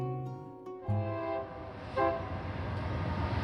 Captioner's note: train horn